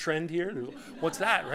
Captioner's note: laughter